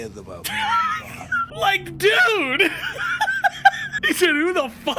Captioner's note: laughs